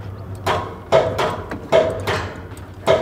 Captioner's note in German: Metallisches Klackern